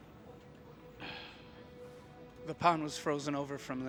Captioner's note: sighing